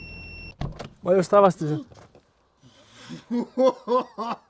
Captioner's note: gasps